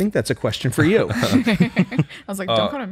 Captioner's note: laughter